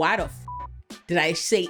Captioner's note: beep